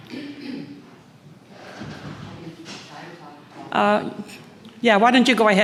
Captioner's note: woman speaks from a distance